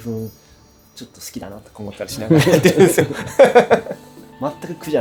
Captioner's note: laughs